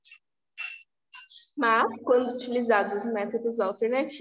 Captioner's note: speaking portuguese